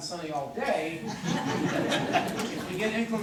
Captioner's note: corporate laughter